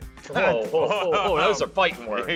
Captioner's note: laughs